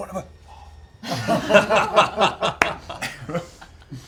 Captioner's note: laughter